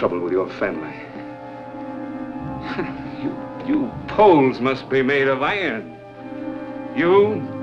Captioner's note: laughs